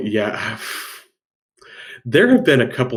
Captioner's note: sighing